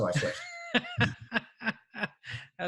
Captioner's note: laughs